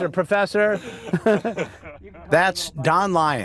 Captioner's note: laughter